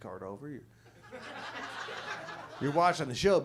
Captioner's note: audience laughs